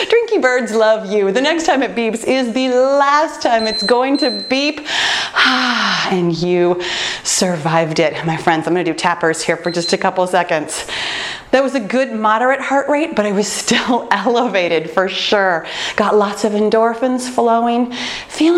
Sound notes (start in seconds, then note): 3.5 timer beeping; 4.8 breaths out